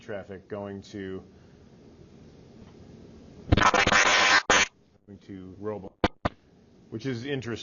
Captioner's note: mic glitching